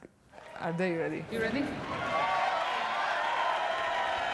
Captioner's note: cheering